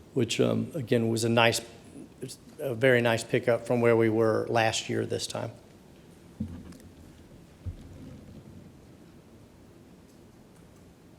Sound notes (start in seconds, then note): none